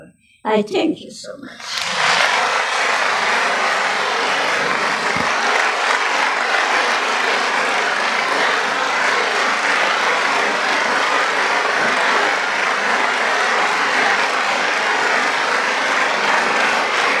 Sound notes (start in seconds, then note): 3.6 applause; 8.7 applause